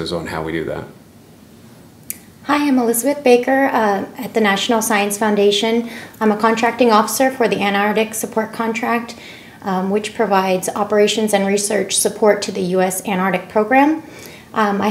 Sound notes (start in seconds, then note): none